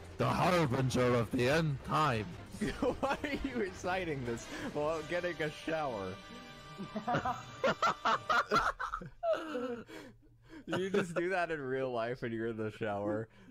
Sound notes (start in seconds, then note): 3.0 laughing; 6.7 laughter